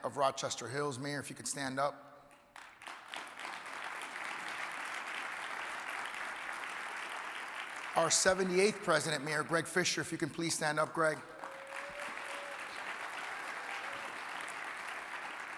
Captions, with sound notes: of Rochester Hills, mayor if you could stand up. (audience applauding) Our seventh eighth president Mayor Greg Fischer, if you can please stand up Greg. (audience applauding)